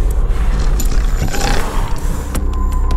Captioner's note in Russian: рык